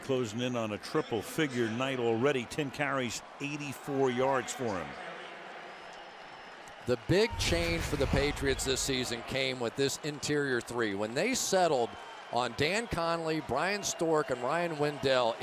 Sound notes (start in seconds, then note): 5.9 pa announcement